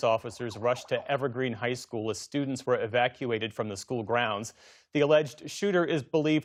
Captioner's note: sirens